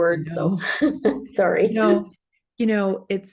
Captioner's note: laughs